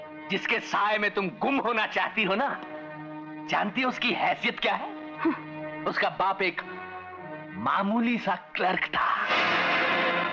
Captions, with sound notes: Do you know the status of the one with... ...whom you are in love with? - (Chuckles) His father was a simple clerk.